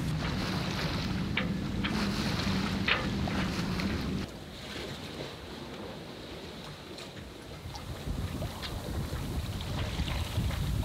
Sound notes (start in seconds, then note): 0.0 sail booms clanking softly; 6.7 water lapping gently